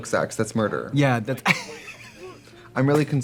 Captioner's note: laughing